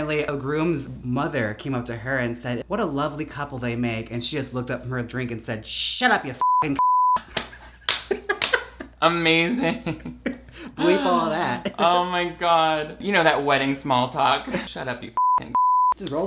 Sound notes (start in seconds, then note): 7.3 both laugh